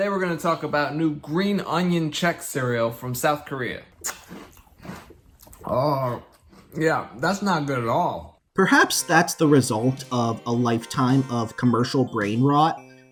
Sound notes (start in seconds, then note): 3.8 crunching noises; 5.6 disgusted groan